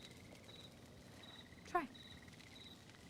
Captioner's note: none